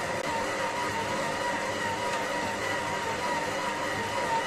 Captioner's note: food processor sound